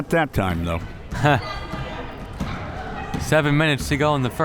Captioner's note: laughs